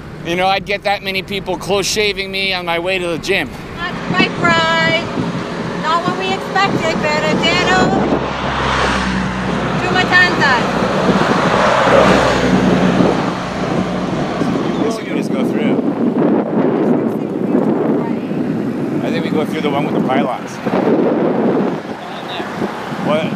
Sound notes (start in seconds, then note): 8.4 bus whooshing; 11.1 traffic driving; 16.3 wind whipping